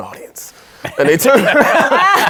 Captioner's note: laughing